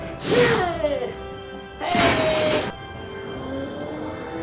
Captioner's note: grunting; grunts; crash